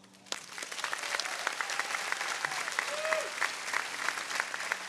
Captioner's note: audience applauding